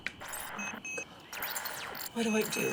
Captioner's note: random beeping